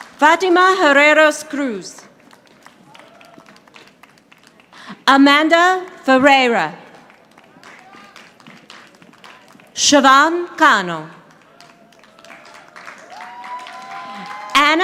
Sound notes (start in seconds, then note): 0.0 audience applauding; 2.1 audience applauding; 6.9 audience applauding; 11.2 audience applauding